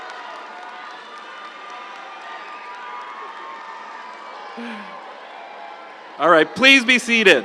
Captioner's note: audience applauds; audience cheering